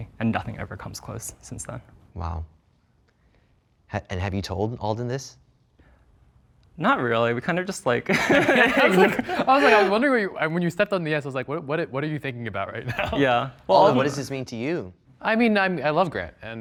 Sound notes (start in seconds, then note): 8.0 laughing